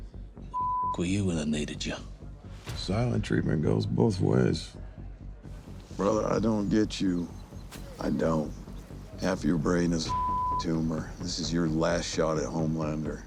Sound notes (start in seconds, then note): 0.5 beep; 10.1 beep